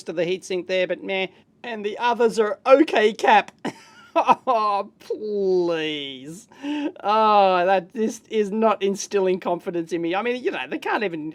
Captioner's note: laughs